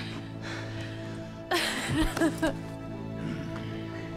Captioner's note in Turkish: Gülme sesi